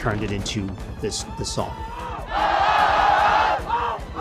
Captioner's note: crowd cheering